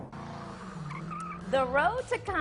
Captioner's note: tire squeal